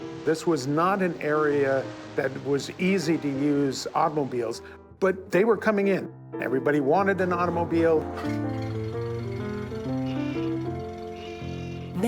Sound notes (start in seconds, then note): 8.1 engine starts; 10.1 car horn honks